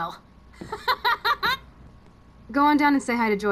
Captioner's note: Chloe laughs